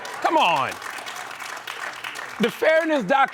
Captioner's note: applause